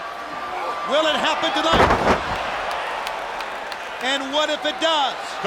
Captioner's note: bodies slamming